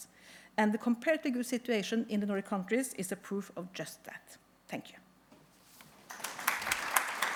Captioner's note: applause